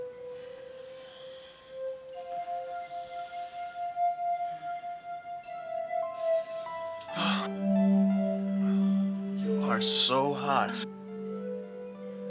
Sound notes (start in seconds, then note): 0.2 tense music; 5.0 Cole moaning